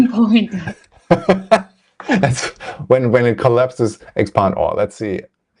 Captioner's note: laughs